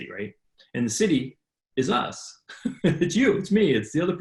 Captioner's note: laughs